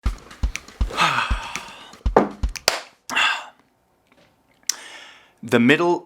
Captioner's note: upbeat music; sighs and claps